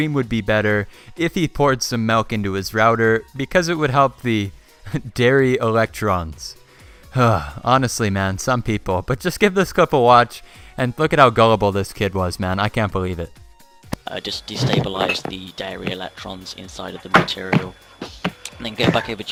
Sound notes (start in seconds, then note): 10.1 sigh